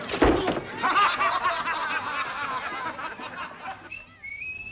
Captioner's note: laughter